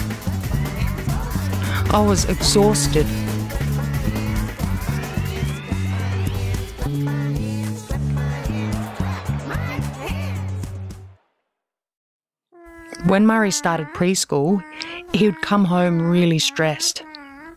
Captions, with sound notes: I was exhausted. [TV noises continue] When Murri started preschool, he would come home really stressed.